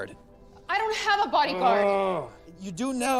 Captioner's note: Jonathan groans